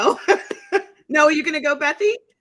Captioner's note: laughing